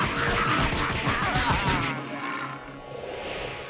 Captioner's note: groaning